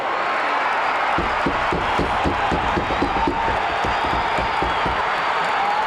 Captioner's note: audience cheering